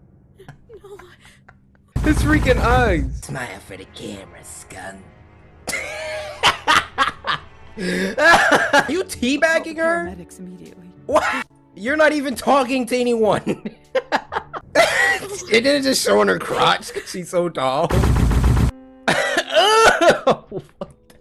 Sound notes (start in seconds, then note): 5.7 wheezes; 13.8 proceeds to laugh his ass off; 14.7 wheezes